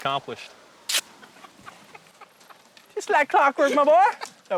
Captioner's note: l lauaughghs s